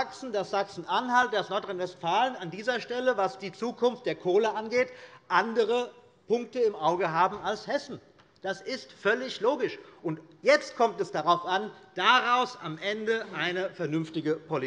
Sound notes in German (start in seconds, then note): none